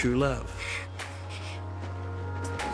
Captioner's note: gasping